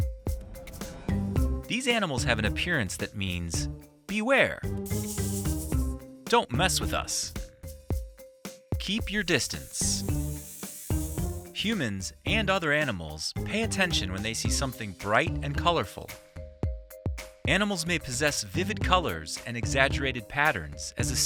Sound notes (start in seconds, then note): 4.8 snake hissing; 4.8 light music; 7.6 light music; 9.2 snake hissing; 10.0 light music